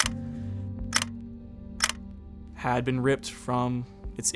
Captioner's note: camera shutter clicks